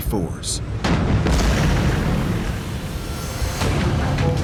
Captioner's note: exploding